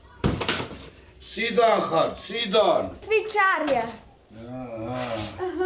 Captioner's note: speaking Georgian; in Georgian